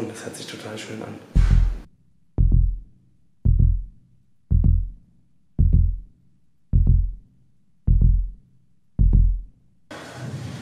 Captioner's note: heartbeats